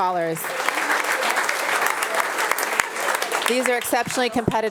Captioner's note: attendees applauding